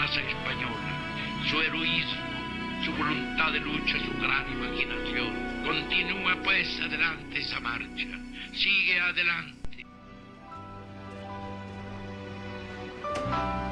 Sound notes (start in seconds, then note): 5.5 person speaking Spanish; 9.8 cheerful music